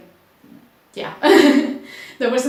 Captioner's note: laughs